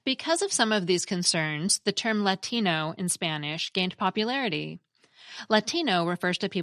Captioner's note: in Spanish